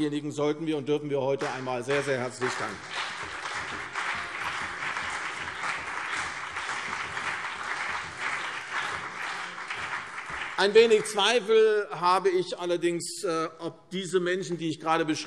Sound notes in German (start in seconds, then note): 3.2 Beifall CDU und BÜNDNIS 90/DIE GRÜNEN